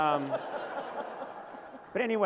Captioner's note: laughter